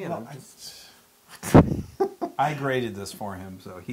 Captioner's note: laugh